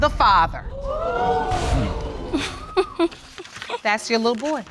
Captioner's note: audience exclaiming